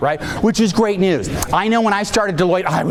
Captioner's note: audience laughing